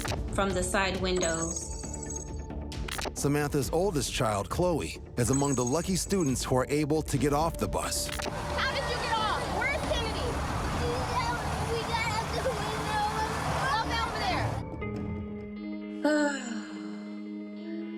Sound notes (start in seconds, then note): 10.8 speaking tearfully; 15.8 sighs